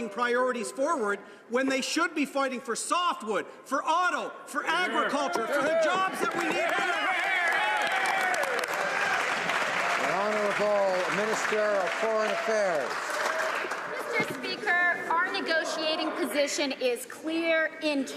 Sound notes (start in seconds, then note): 12.8 some Applause